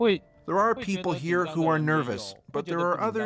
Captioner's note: speaking alternate language